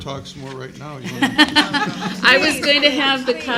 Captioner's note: laughing